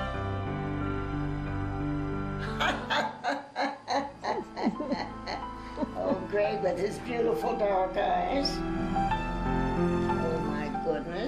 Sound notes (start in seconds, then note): 2.4 laughs